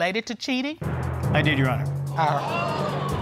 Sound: audience exclaiming

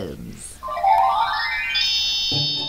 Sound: magic chime

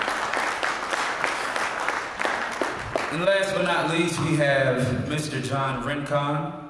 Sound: applause

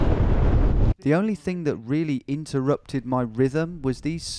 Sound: voiceover

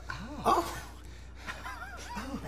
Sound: laughter

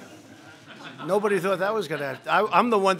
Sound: laughter

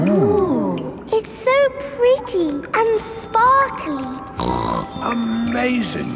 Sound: snorts

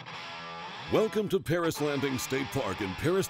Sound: voiceover

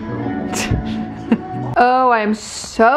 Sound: laughs

